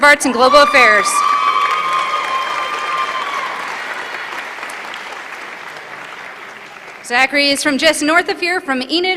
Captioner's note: applause